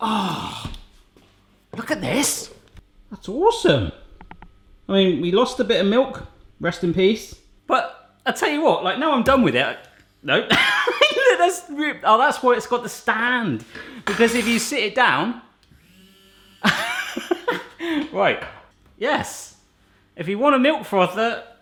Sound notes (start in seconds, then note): 15.7 whisk whirring; 16.6 laughs